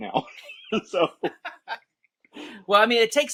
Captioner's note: laughter